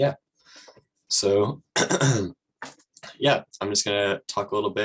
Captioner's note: clears throat